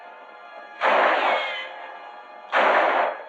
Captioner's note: gunshots